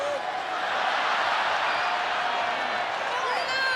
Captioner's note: crowd cheering